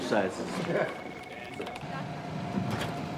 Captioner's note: laughs